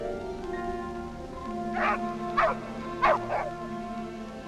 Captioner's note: barking